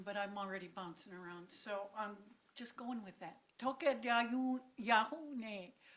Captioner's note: speaking in own language